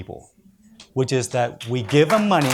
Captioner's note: audience applauds